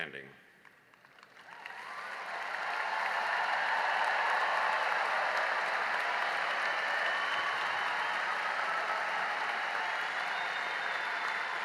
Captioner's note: cheering and applause